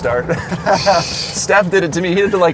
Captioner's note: laughs